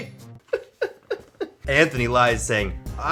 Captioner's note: laughs